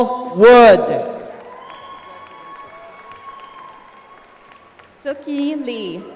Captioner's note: applause